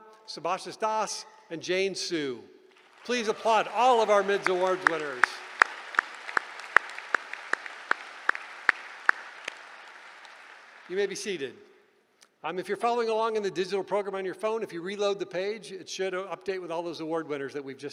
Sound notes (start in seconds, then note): 5.6 applause